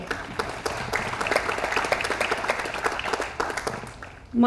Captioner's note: audience applauds